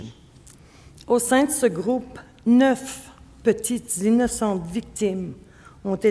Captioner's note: speaking French